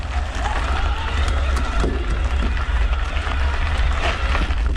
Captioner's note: bicycle motor roars